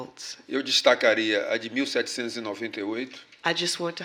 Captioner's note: speaking portuguese